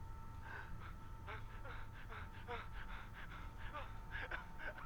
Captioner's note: victim gasping fearfully